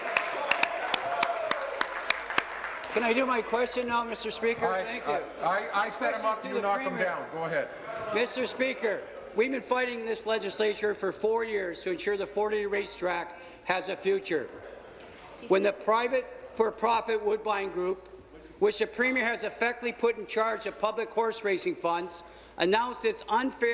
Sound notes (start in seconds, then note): 0.0 applause